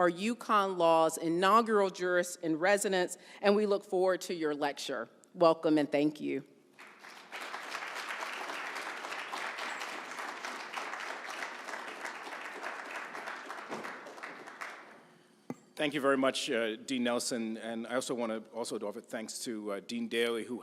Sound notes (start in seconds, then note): 6.8 audience applauds